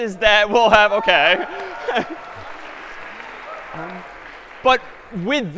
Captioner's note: cheering and applause